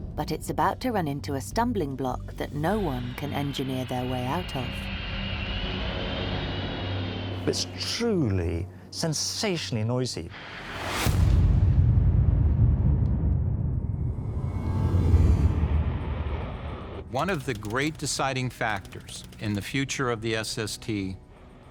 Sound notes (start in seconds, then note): 5.7 aeroplane whooshing; 10.3 tense booming music